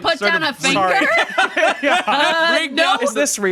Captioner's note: laughing